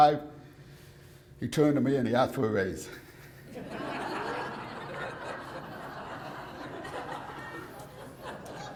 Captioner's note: laughter